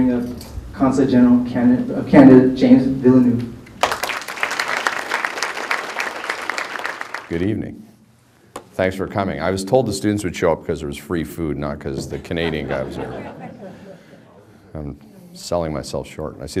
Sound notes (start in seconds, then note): 3.7 applause; 12.0 background laughter